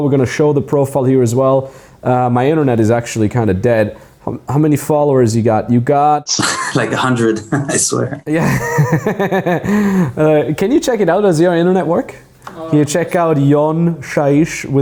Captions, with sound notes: We're gonna show the profile here as well. My internet is actually kind of dead. How many followers you got? You got - (chuckles) Like a hundred, I swear. - (laughs) Can you check it out, does your internet work? Can you check out YonShaish?